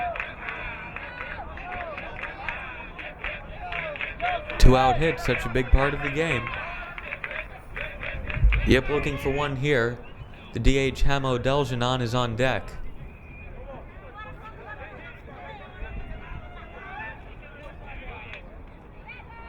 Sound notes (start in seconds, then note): 14.4 crowd muttering